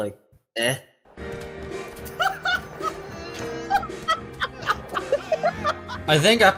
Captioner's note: crew laughing